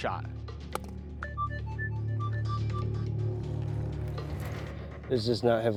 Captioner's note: beeping